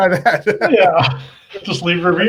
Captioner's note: laughs